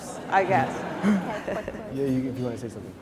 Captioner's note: laughing